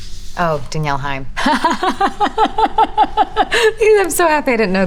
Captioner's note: Elizabeth laughs